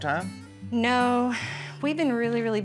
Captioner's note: sighs